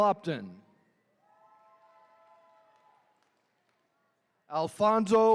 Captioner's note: attendees cheering